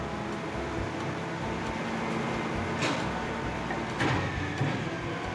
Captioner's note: truck whirring